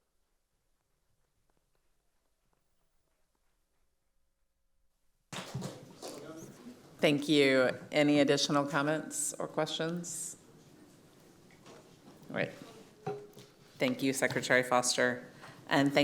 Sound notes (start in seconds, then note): 5.4 applause